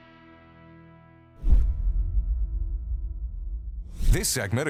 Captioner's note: logo whooshes